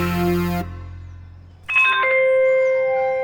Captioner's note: p.a. chimes